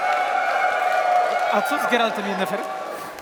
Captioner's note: cheering